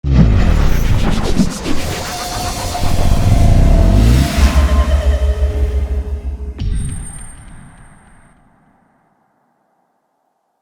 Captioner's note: intro SFX